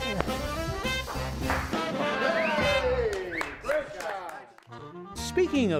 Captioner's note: cheers